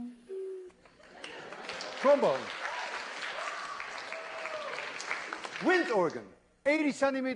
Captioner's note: applause